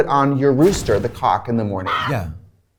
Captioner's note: rooster squawks